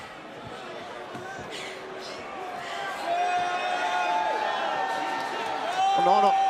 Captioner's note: crowd cheering